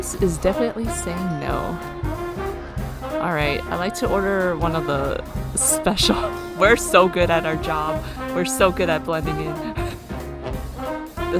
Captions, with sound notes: [sarcastically] We're so good at our job. We're so good at blending in.